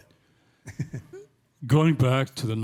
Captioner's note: chuckling